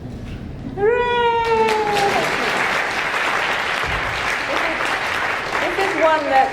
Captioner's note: audience applauding